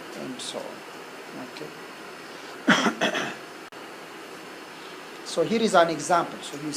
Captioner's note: cough